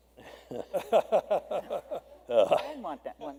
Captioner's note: laughter